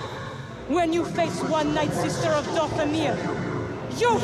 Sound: with distorted echos

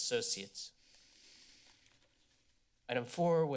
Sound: inhales deeply

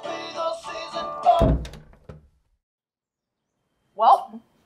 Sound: door slams shut

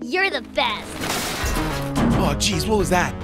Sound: glass shatters

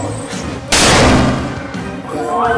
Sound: boom

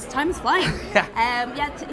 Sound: laughs

